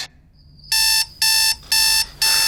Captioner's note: alarm beeps